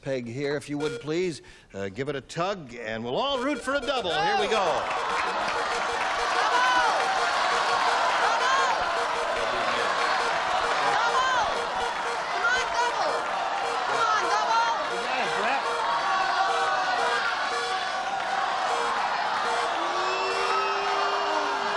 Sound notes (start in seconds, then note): 6.8 cheering